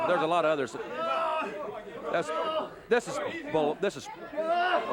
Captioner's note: crowd chatter